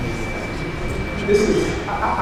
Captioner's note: audience murmurs